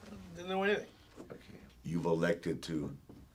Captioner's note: none